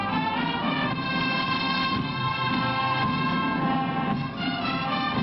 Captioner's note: applause